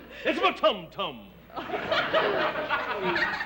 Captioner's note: laughter